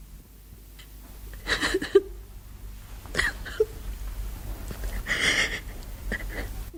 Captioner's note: the woman cries